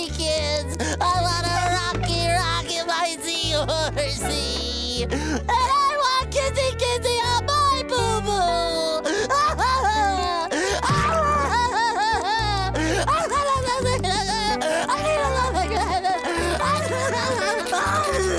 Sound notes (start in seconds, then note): 8.3 crying